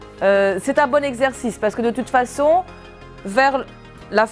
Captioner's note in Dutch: spreekt frans